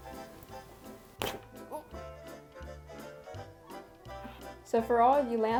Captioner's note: tears fabric